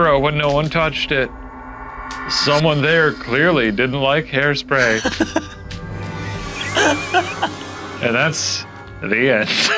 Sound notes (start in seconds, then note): 6.6 laughing